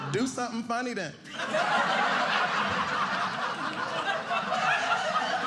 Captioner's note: audience laughing